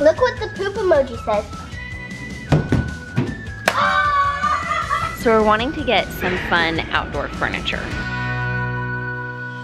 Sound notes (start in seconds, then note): 3.7 cheering